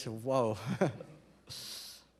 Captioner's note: chuckles